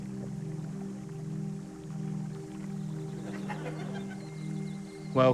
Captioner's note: serene music; stream trickles, birds twitter